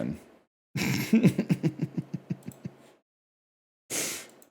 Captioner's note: laughs